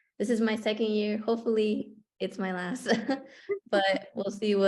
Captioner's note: laughter